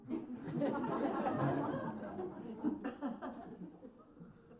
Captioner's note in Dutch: gelach